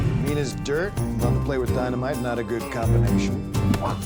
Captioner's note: punching